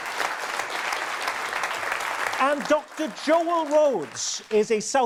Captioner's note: audience applause